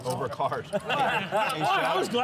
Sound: laughs

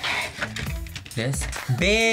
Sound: tray scrapes

